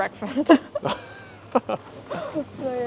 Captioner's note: laughing